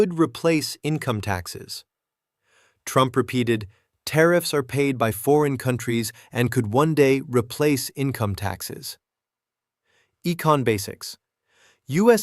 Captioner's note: sarcastic